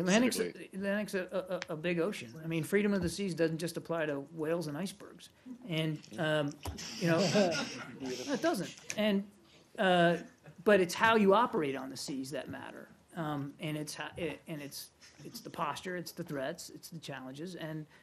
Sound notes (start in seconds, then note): 7.1 laughter